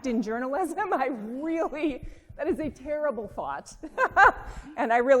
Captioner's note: laughing